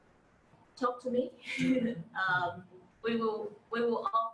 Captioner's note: chuckles